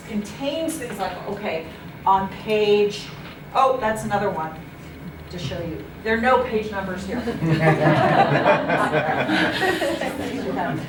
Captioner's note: laughter